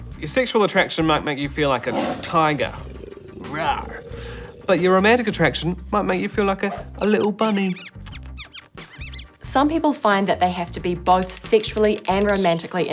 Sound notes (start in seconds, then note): 1.6 tiger growls; 6.7 bunny squeaks